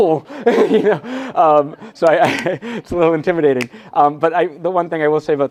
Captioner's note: laughs